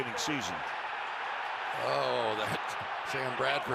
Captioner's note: cheers